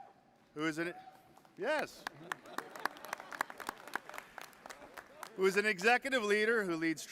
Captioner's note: applause